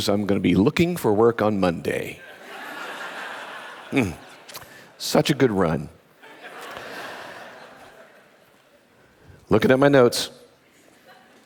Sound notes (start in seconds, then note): 2.3 audience laughing